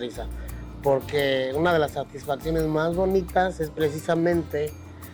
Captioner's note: continues speaking Spanish